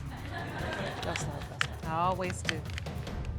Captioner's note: audience laughing